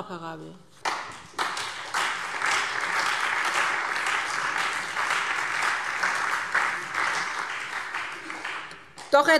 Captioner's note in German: Beifall SPD und Freie Demokraten